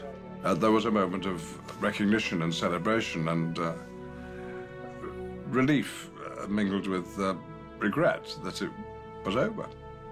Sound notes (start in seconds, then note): none